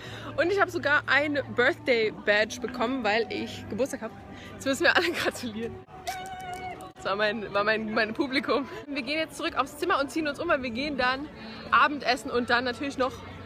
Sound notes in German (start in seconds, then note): 6.0 Jubel im Hintergrund